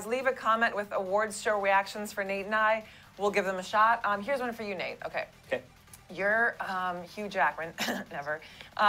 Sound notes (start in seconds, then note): 7.6 coughs